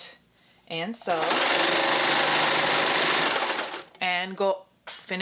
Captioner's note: sewing machine clunking